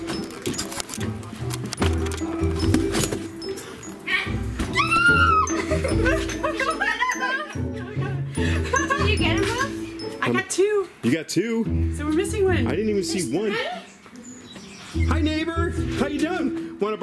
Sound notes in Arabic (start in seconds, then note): 0.0 الموسيقى متفائلا; 4.7 صراخ; 5.2 يضحك; 8.8 ضحك